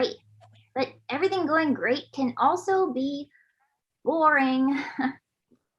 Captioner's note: chuckles